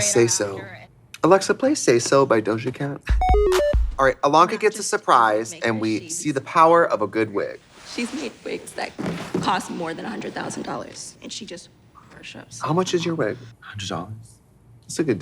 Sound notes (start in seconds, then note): 3.2 bright electronic music; 4.3 Katya laughing; 8.9 box clattering